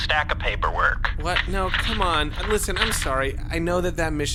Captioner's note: paper shuffling noises